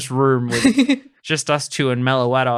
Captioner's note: laughing